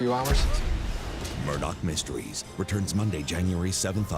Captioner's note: cannon fire